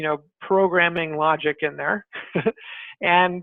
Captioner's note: laughs